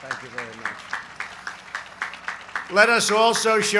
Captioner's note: applause